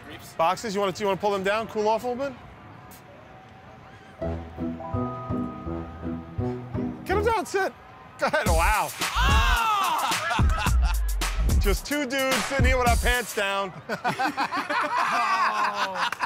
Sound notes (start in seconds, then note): 9.2 laughs; 13.7 laughter and applause